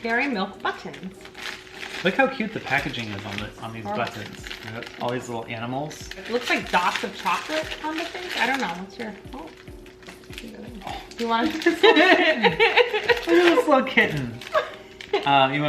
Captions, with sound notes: Dairy Milk Buttons. - Look how cute the packaging is on these buttons. All these little animals. - Looks like dots of chocolate on the thing, I don't know, what's your, oh. - Oh, look at this little kitten. (laughing loudly) Look at this little kitten.